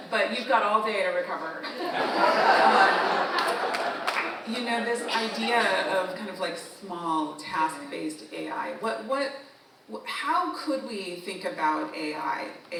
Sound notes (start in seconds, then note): 1.7 audience continues laughing; 4.0 audience member applauds